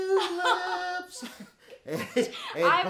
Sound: both chuckling

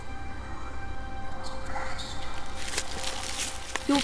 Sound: whispering trees

